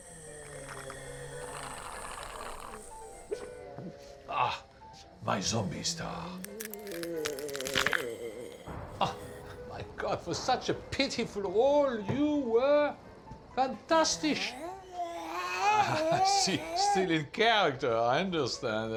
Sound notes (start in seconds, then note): 0.0 zombie miss gudi growling; 6.4 neck cracking; 14.0 zombie miss gudi growling